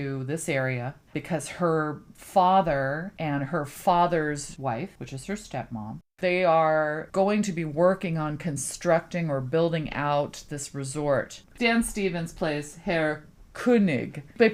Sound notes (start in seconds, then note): none